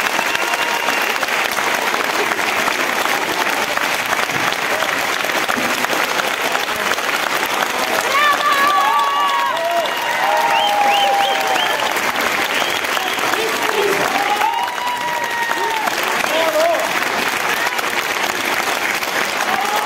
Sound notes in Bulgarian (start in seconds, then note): 0.0 аплодисменти; 10.4 аплодисменти